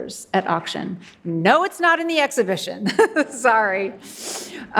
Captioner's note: laughs